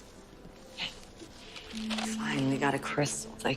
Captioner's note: whihispering